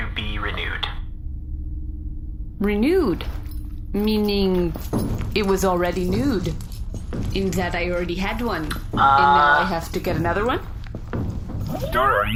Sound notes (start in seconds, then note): 3.0 quietly